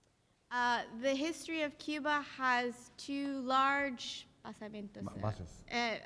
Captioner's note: speaking in Spanish; speaking in Spanish